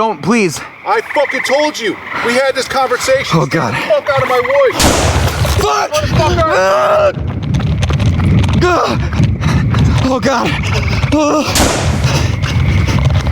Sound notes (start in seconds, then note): 4.7 sounds of shots fired; 10.5 gasping; 11.5 sound of shot fired